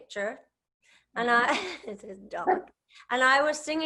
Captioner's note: chuckles